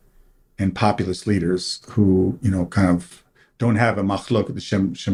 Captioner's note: hebrew